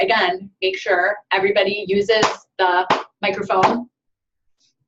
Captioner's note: claps